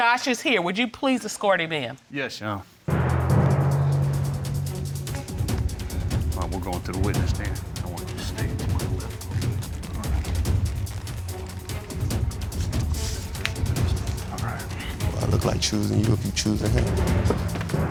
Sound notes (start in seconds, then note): 3.7 suspenseful music playing; 9.9 whispering softly